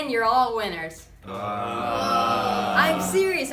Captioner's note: collective groan